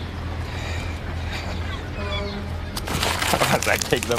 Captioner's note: chuckles